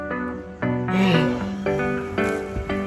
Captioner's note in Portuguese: bocejando